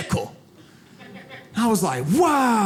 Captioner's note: audience laughs